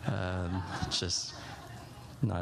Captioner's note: laughter